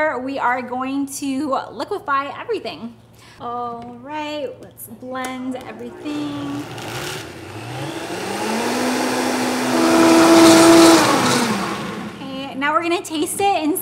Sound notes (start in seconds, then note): 5.8 blender whirring